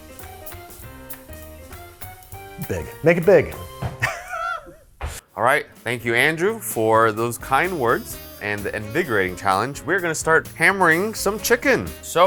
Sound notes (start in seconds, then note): 3.9 laughs